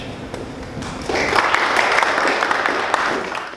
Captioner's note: applause